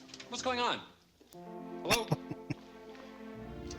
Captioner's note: chuckling